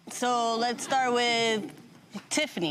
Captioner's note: crowd laughing